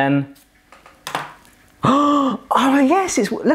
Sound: gasping

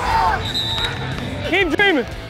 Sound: whistle blows

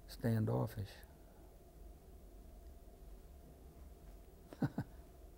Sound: laughter

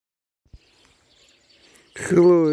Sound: sound of the sparrows chirping

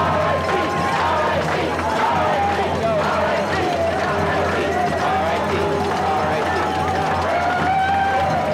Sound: cheering

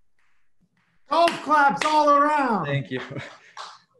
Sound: claps

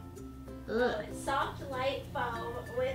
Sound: voiceover

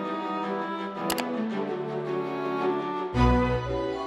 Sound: button clicking

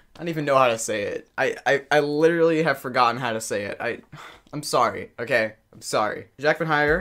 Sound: breathes

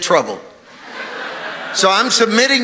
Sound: congregation laughing

